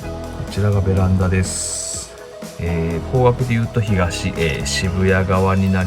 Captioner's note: speaking in foreign language